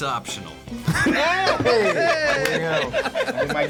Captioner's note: both laugh